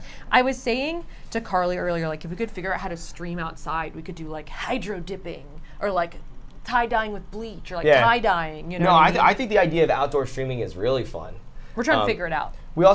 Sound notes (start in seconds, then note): none